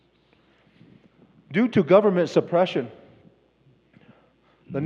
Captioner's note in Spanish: Expositor habla en inglés